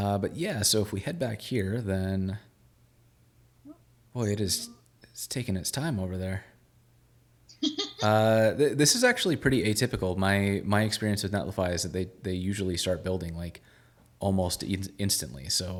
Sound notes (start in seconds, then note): 7.6 laughing